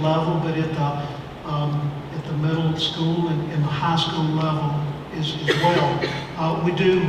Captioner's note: cough